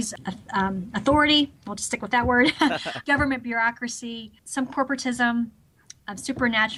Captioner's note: both laughs